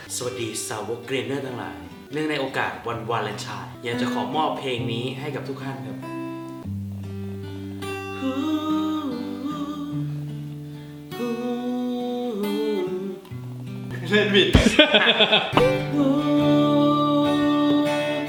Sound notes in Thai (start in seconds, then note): 8.1 ร้อง; 14.5 หัวเราะ